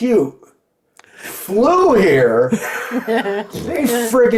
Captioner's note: laughing